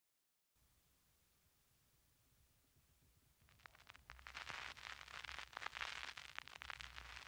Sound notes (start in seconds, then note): 3.4 static